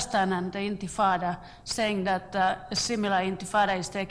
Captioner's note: foreign words